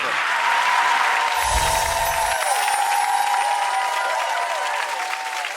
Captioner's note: audience cheers and applause